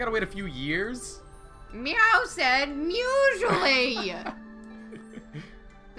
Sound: laughs

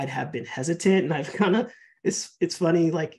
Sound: laughing

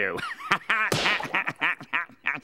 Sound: laughing

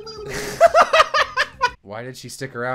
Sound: laughter

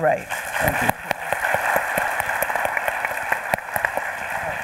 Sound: audience applauding

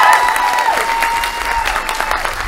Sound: applause

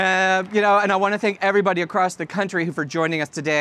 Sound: applause

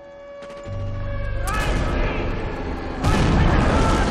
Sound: dramatic music playing; shouting

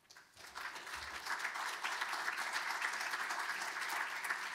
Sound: audience applauding

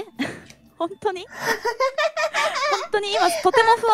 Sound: laughing

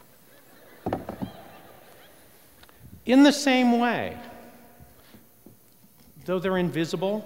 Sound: laughter

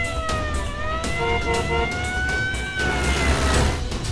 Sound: honking

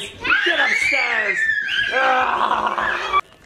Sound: screaming

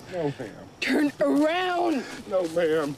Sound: speaks aggressively

